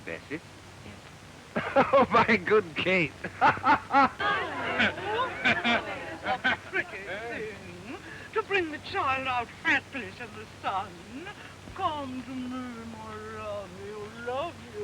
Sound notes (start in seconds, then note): 1.5 laughing; 3.6 chattering